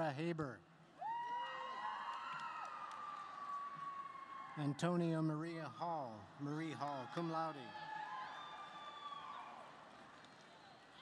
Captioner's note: cheers and applause